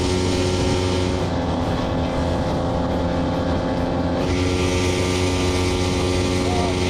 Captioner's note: engine sounds